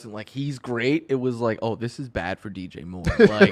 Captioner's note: laughs